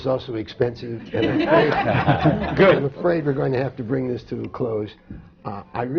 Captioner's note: laughter